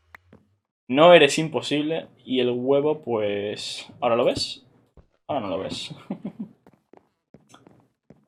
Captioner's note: laughs